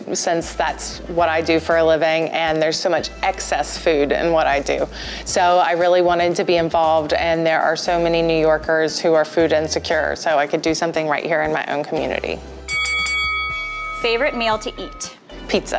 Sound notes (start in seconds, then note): 12.6 bell dinging